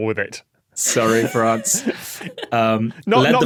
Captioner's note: scattered laughter